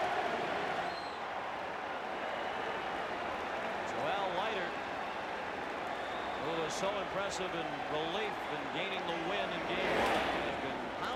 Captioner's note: applause